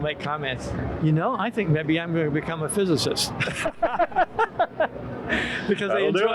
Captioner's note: both laugh